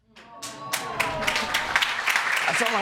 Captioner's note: audience applauding